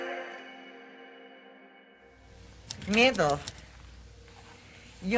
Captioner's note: Tecleo